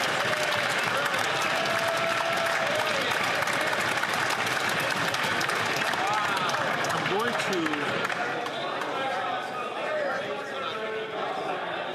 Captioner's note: some Applause